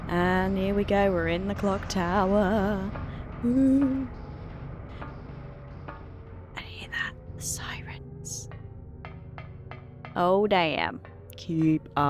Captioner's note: whispering